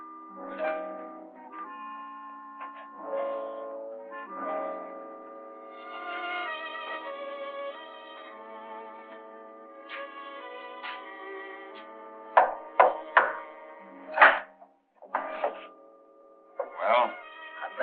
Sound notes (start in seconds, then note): 12.4 knocking on door